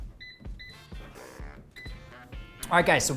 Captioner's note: electronic beeping